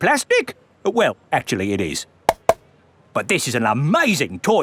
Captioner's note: taps